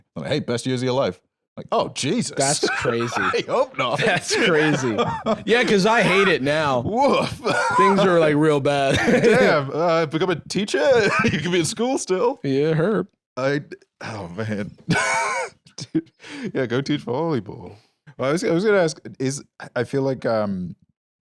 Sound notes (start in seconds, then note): 2.3 laughs; 14.8 laughs